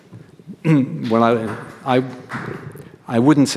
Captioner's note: audience member applauds